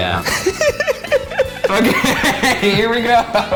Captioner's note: laughs maniacally